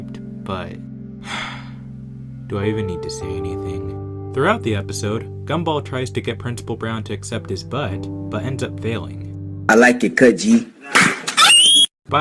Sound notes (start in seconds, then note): 1.2 sigh